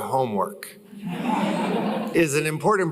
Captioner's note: laughter